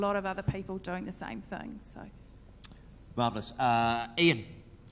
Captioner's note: none